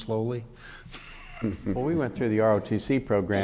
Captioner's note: laughing